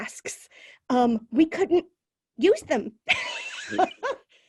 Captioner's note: laughs